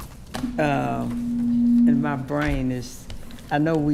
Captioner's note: microphone feedback